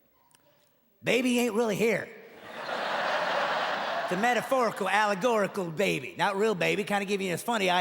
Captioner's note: audience laughing